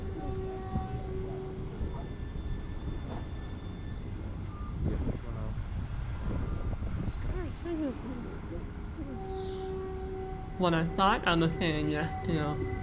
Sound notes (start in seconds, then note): 0.0 Caltrain horn blows and brakes screech; 4.3 wind blows a lot; 8.9 Caltrain brakes screech